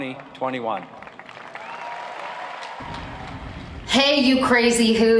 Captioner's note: applauding